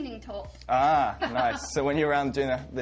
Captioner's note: laughs